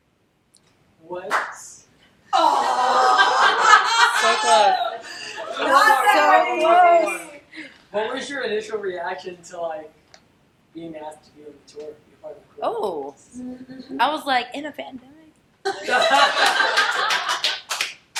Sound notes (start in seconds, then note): 1.2 claps